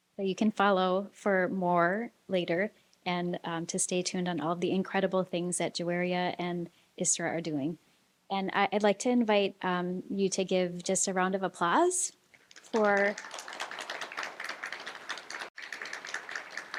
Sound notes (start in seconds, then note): 12.4 applause